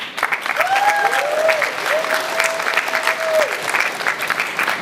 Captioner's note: applause